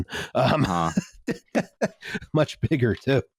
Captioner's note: laughs